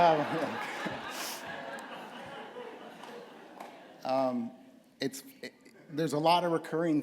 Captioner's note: laughter